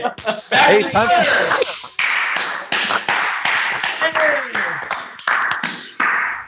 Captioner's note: applause